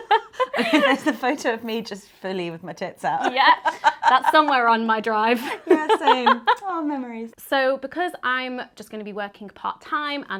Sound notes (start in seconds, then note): 0.0 laughing; 5.3 laughing